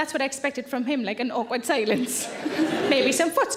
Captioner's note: chuckles